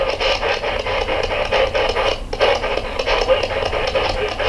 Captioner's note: static pulsing